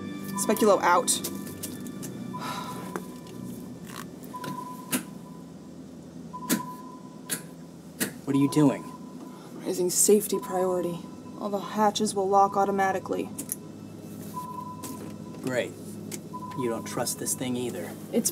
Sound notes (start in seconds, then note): 2.4 sighs; 6.4 buttons clacking